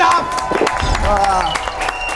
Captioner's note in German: Jubel, Applaus